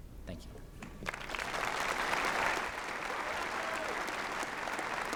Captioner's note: applause